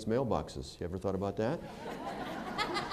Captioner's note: laughter